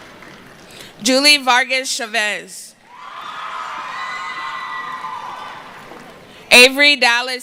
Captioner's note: screaming and cheering